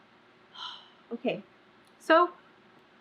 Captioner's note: exhales loudly